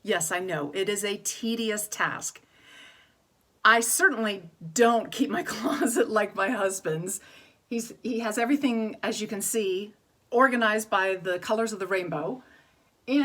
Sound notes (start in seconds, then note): 2.5 inhales